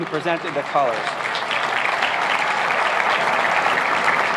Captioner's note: applauding